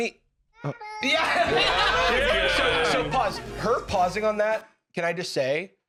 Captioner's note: all laughing